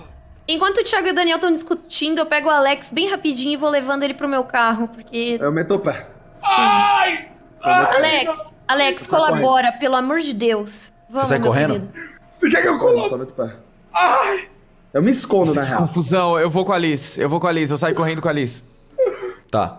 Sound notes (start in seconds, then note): 6.4 screams; 13.9 screams